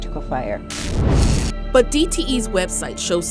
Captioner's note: electricity crackling; fire roars